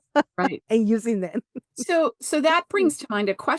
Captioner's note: laughs